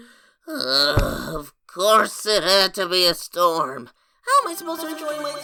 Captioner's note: sighs